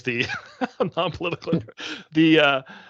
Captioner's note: chuckling